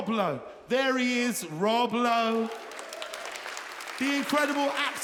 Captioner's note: audience applauds